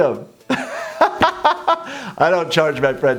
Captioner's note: laughs